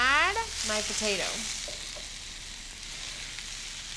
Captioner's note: sizzling